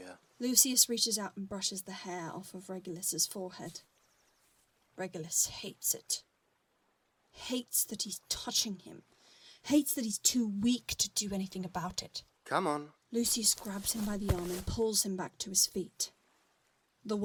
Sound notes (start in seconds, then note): none